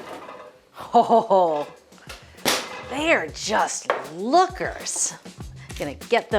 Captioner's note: laughs